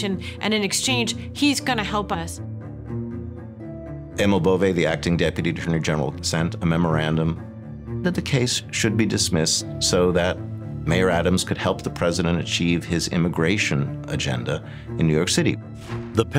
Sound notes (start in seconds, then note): none